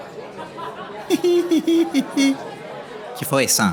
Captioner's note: very silly chuckle